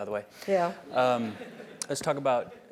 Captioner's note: laugh